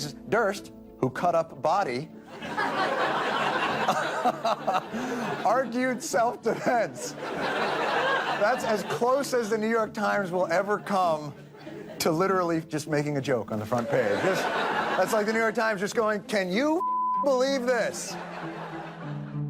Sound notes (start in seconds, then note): 2.0 laughs; 2.3 audience laughs; 17.7 audience laughs